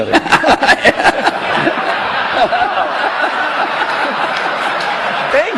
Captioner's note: laughter